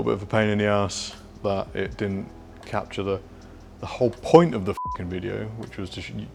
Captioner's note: beep